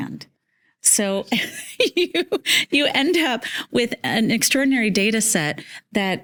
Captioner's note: laughing